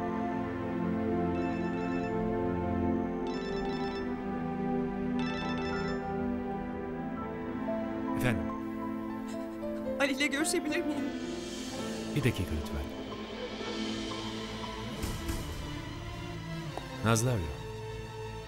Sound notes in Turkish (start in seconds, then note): 1.2 telefon çaliyor